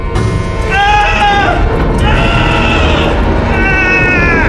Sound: music intensifies; screaming

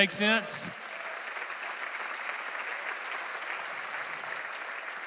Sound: congregation applauding

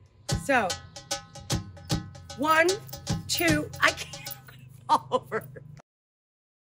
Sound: laughs

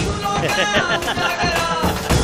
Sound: laughs

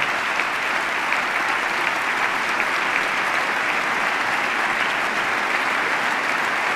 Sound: applause

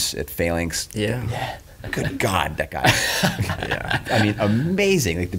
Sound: laughs

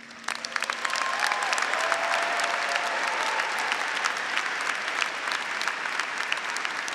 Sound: graduates, audience, and faculty applauding

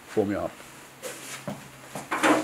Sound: rustling

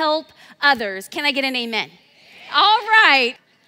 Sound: crowd

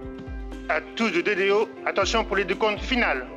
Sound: speaking French

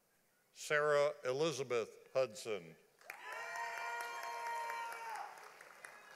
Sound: audience applauding

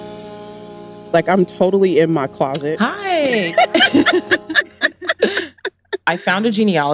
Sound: laughs

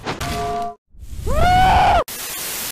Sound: screams

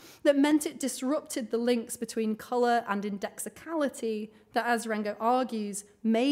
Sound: none

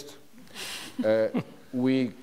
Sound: chuckles

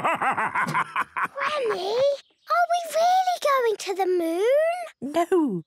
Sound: whispers

